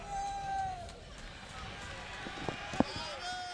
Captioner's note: crowd chatter